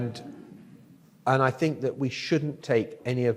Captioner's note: audience laughs